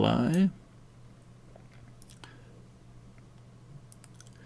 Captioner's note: silence